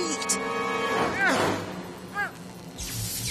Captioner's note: effort grunts